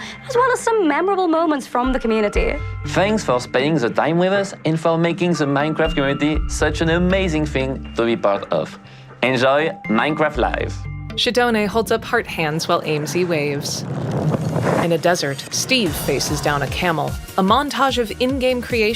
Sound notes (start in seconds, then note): 13.8 rustling; 15.6 bright electronic music